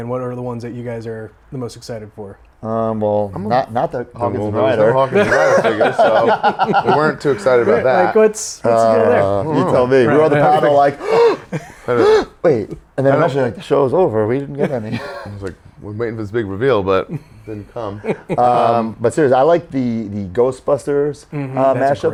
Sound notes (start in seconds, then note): 4.6 laugh; 10.9 comedic gasping